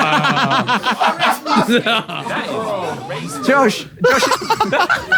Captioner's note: people in room laughing